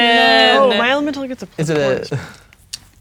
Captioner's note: chuckles